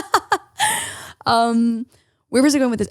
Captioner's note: laughs